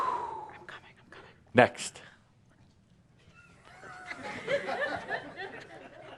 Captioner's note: whispers